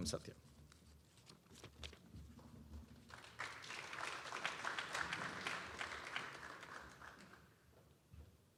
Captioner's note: applause